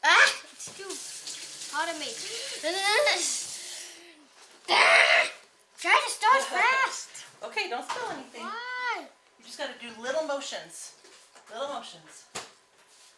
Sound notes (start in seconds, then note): 4.7 groaning